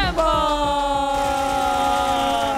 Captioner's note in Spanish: Aplausos